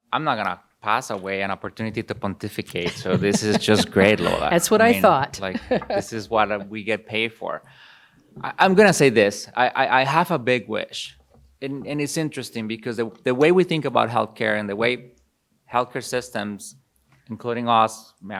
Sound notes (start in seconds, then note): 2.7 laughs